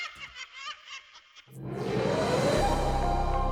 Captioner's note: laughing